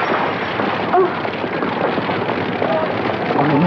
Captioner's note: sighs